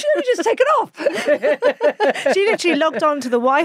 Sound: both laughing

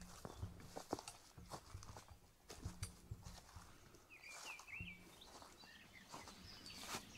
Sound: leaves rustling; birds continue chirping

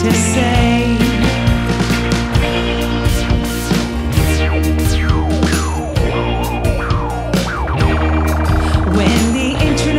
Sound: laser sounds + instruments playing

